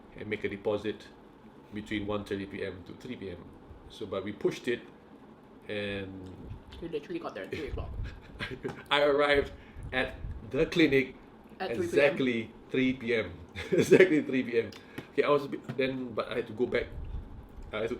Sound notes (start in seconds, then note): 8.2 laughing; 13.6 laughing